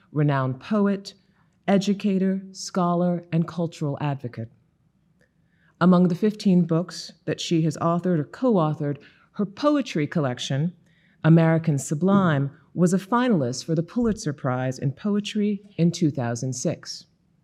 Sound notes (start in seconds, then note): none